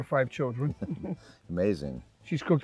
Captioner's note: chuckles